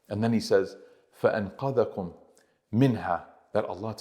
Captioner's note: Arabic